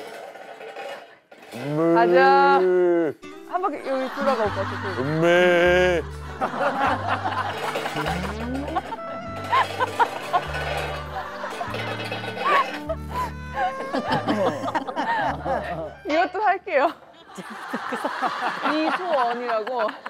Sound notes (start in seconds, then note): 5.0 mooing